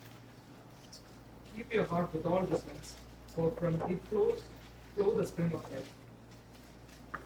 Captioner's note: reading verse in English